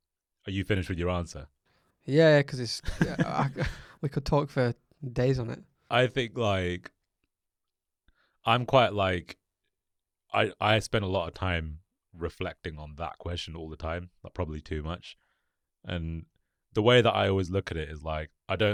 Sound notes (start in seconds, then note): 2.8 laughs